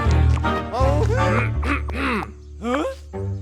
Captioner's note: man clears throat